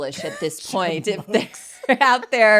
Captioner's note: laughs